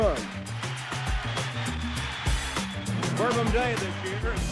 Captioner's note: crowd cheering